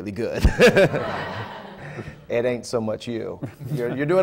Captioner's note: laughter